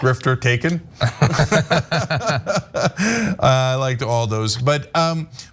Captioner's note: laugh